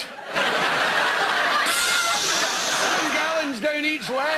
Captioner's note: laughter